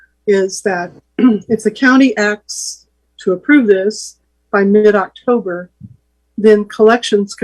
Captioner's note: cough